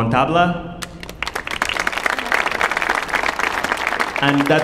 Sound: audience applauding

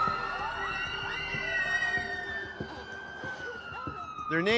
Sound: people screaming

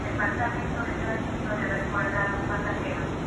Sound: Spanish Announcement

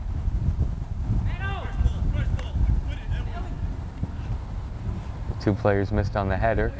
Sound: players talking and yelling

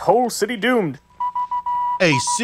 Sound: beeps

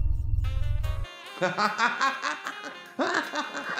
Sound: laughs

